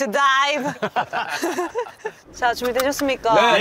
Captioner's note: chuckles